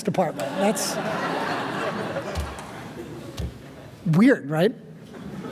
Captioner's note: audience laughing